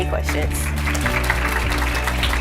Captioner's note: applause